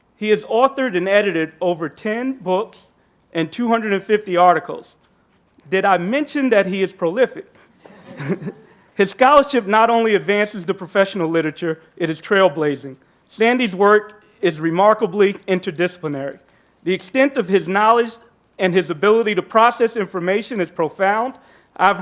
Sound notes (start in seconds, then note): 7.8 group laughing